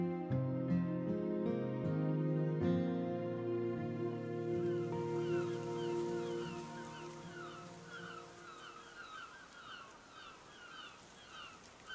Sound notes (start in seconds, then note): 0.1 gentle music continues; 5.0 birds squawking